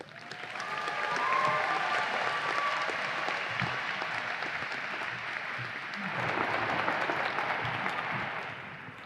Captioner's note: audience applause and cheers